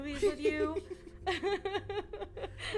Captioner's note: laughing